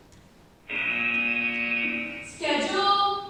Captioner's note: buzzer